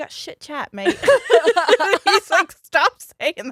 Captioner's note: both laughs